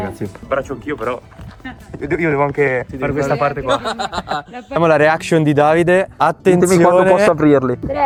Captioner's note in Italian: risate